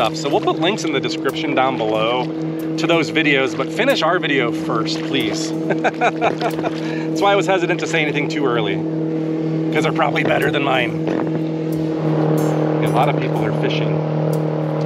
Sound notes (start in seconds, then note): 5.6 laughter